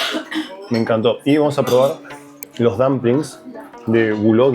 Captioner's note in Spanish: carraspeo